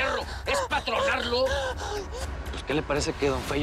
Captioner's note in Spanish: Sollozos